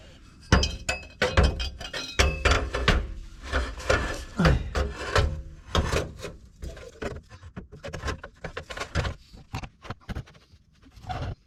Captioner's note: metal clanking